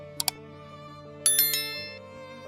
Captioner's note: bell ringing